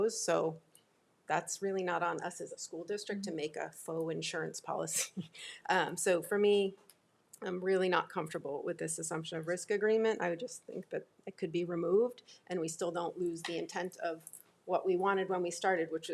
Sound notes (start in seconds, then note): none